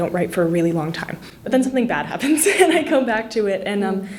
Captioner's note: giggles